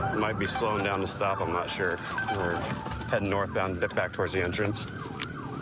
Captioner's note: sirens blaring